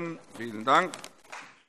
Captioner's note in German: Vereinzelter Beifall CDU und BÜNDNIS 90/DIE GRÜNEN